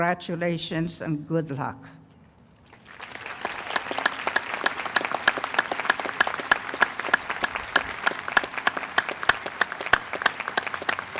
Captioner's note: applause